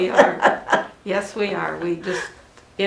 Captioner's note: laughing